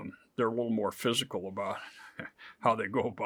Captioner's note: chuckles